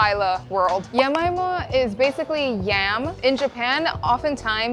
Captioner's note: bubble popping